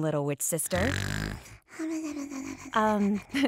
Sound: snoring continues; giggles

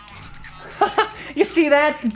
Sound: laughing

